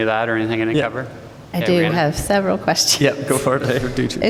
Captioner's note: laughter